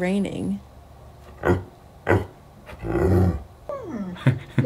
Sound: deep dog bark; dog whining

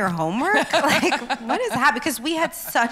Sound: laughs

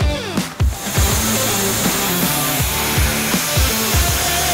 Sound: welding machine buzzing

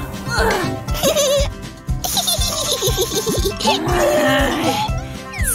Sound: grumbles

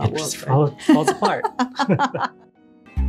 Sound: laughing

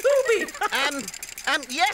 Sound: Tula laughs

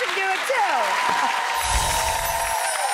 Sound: crowd cheers and claps; air whooshing

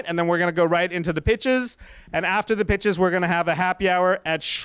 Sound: none

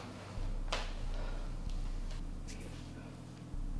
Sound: Heather sighs

